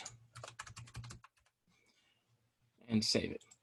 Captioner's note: keyboard clicking